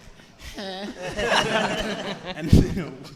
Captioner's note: audience and hosts laughing